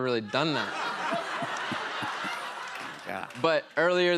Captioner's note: laughter